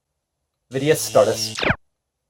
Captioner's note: zap